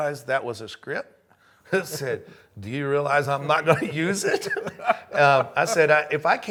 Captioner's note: chuckles